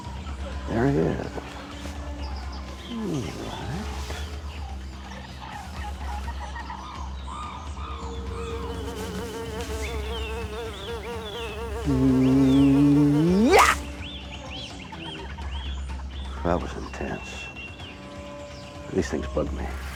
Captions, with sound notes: There he is. All right. (fly buzzing) Yah! (swatter smacks) That was intense. These things bug me.